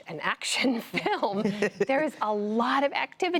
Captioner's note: laughter